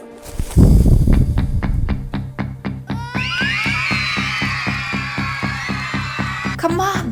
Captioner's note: music and screaming teenagers